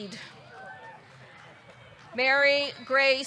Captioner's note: audience cheering